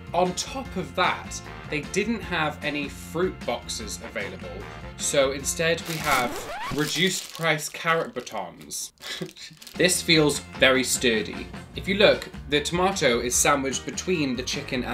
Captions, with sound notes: On top of that, they didn't have any fruit boxes available. So instead we have (record scratches) reduced price carrot batons. (chuckles) This feels very sturdy. If you look, the tomato is sandwiched between the chicken